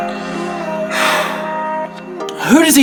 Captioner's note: loud sigh